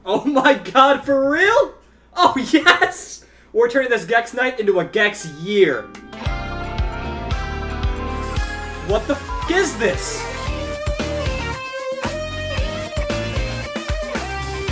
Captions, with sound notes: - Oh my God, for real? Oh yes! We're turning this Gex night into a Gex year! What the (beep) is this? (upbeat music)